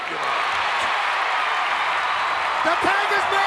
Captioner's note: crowd cheering